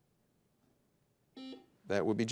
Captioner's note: buzzer dings